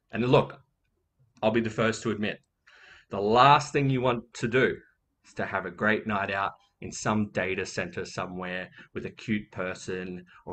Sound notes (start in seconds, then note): none